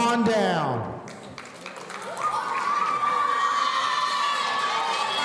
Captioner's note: audience cheering